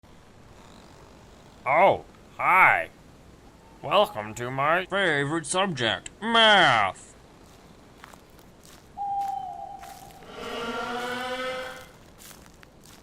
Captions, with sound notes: Oh, hi! Welcome to my favorite subject, MATH! [Baldi howl]